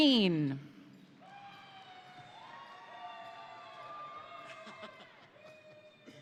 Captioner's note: crowd cheering; crowd applauding